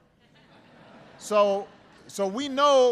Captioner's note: laughter